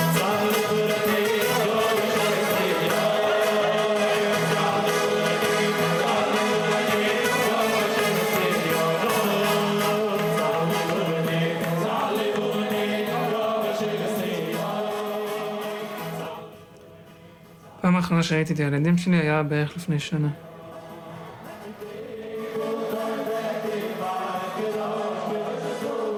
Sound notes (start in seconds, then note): 0.2 musicians speaking in foreign language; 17.8 young man speaking in foreign language; 21.2 musicians speaking in foreign language